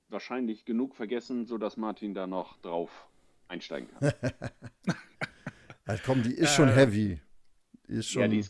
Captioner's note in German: gelächter